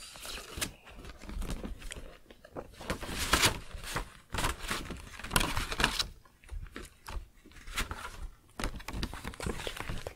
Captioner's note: pages turning, jacket shuffling